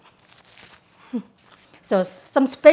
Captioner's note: chuckling